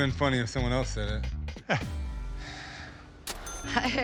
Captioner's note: laughs